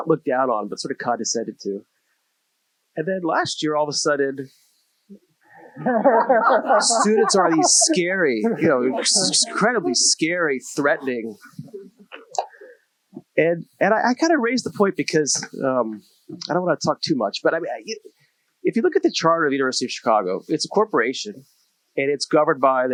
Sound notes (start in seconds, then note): 5.6 laughter